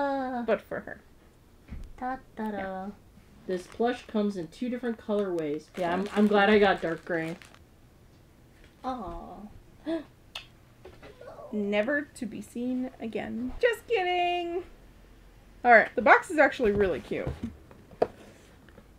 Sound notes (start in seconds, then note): 9.2 gasp